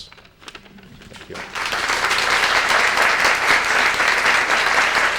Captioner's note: applause